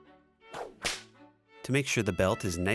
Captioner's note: whip crack